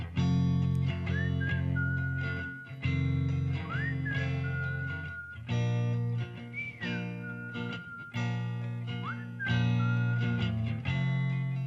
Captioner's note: whistling